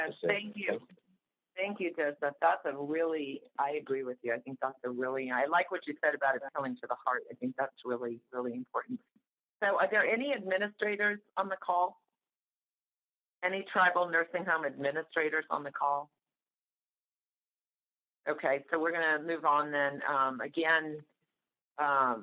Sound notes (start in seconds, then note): 16.5 silence